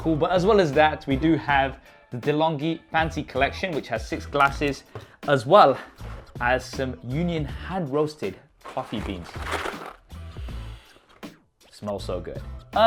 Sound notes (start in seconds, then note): 10.3 inhales